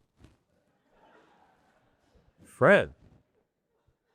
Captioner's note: attendees laughing